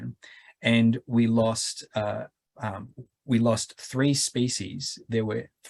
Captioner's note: stammering